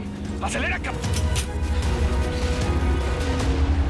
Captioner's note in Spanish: Sonido al cargar el arma